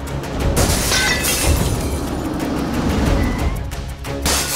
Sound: car braking

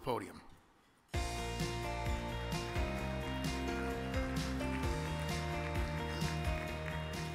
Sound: upbeat music; audience applauds

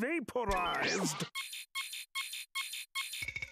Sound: beeping

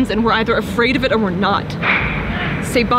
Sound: echoes in background

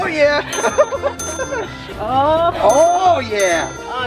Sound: laughter

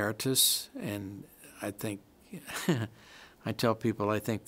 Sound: chuckles

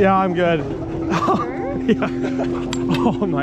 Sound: laughing

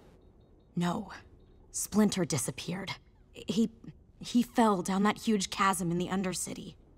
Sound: none

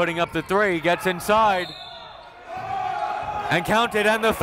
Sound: whistle

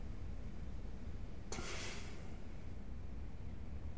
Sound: sighs

